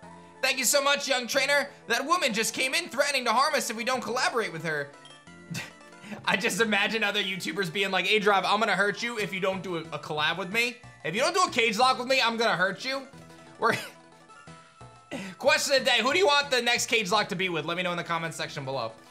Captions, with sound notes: Thank you so much, young trainer. That woman just came in threatening to harm us if we don't collaborate with her. I just imagined other YouTubers being like, aDrive, I'm going to hurt you if you don't do a collab with me. If you don't do a cagelocke with me, I'm going to hurt you. (chuckles) Question of the day, who do you want the next cagelocke to be with? Let me know in the comment section below.